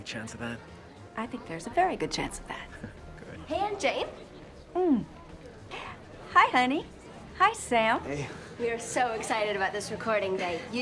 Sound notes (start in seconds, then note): 2.7 chuckles